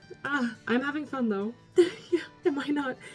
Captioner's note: laughs